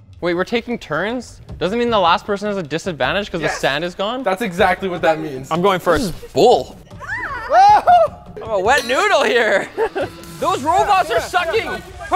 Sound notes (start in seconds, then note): 0.0 intense music; 7.0 screaming; 10.5 giggling